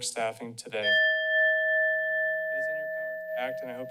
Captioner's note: bell sound